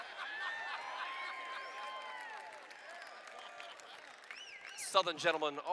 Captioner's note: laughter